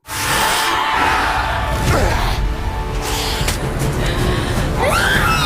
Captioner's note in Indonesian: berteriak